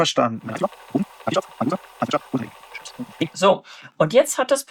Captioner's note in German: Voice-over sehr schnell vorgespult